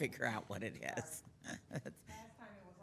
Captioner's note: chuckling